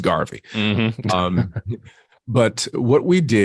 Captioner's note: both chuckle